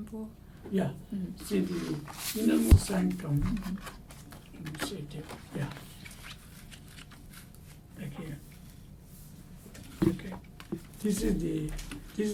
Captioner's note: papers rustling